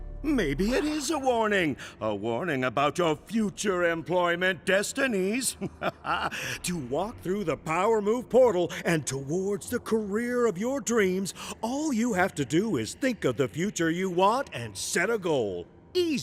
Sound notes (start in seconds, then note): 5.4 laughs